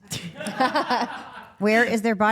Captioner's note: someone off camera laughs